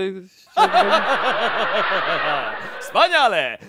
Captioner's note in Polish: Ha ha ha ha ha